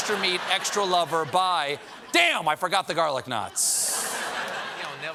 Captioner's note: laughter